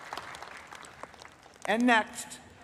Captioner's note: applause